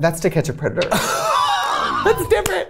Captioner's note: both laughing